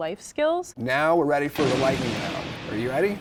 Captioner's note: thunder rumbling